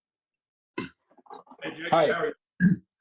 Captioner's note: clears throat